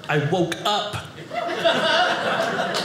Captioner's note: audience laughing